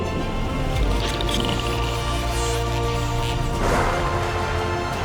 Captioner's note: clicking